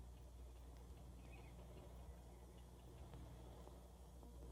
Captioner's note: ticking Continues